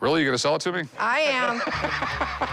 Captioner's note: laughs